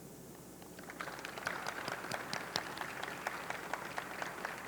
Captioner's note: audience clapping